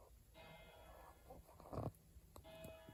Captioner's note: chuch bell 4x: full hour; chuch bell: 01:00; chuch bell: 02:00